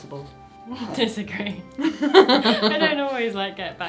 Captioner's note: laughs